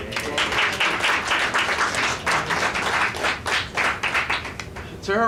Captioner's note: audience applauds